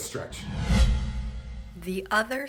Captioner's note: air whooshing